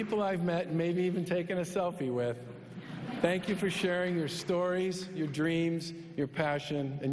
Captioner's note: applause